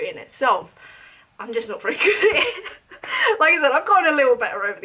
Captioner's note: chuckles